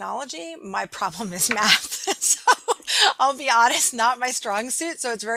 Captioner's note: laughing